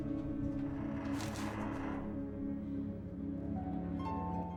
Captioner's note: door creaks